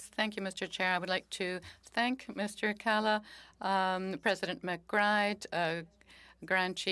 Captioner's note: speaking French